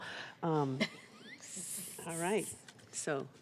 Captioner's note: laughter